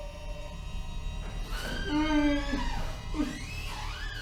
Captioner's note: bathroom door opens